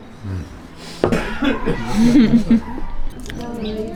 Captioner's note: giggles